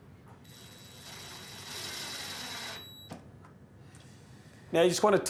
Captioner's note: drill